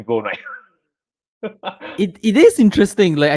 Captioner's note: laughs